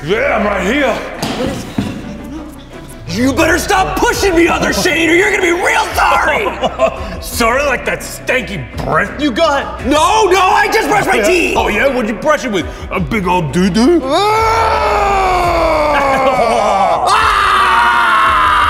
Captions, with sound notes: - Yeah. I'm right here. - You better stop pushing the other Shane or you're gonna be real sorry. - Sorry? Like that stinky breath you got? - No, no, I just brushed my teeth. - Oh yeah? What'd you brush it with? A big old doodoo? (screaming)